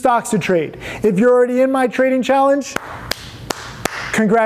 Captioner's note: claps